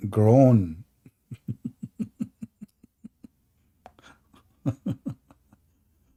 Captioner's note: Ketawa